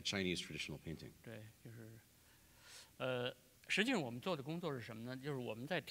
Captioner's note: speaking in Chinese